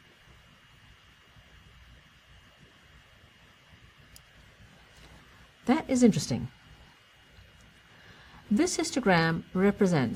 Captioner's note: pause